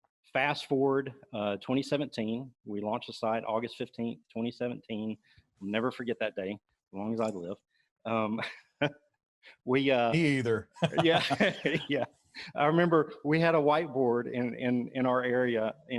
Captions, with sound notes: Fast forward, 2017, we launched the site August 15th, 2017. I'll never forget that day as long as I live. (laughs) - Me either. - Yeah. (laughs) Yeah, I remember, we had a whiteboard in our area